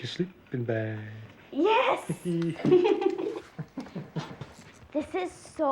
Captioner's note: all laughing